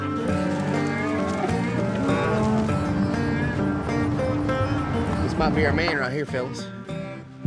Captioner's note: cows moo